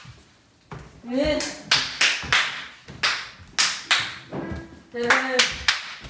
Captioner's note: clapping and yelling